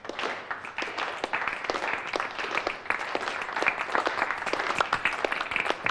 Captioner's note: applauding